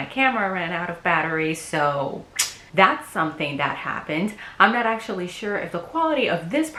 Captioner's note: sucks teeth